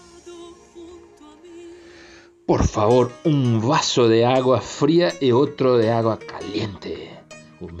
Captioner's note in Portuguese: Em espanhol